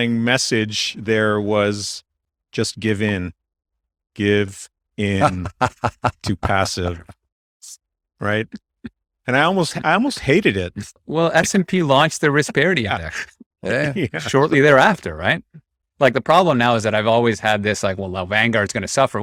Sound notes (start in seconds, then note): 7.7 laughs; 13.5 laughs